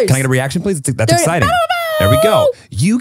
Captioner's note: making exciting sound